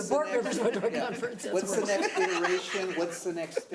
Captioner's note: laughing